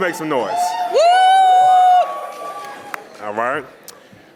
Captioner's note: panelist and audience cheering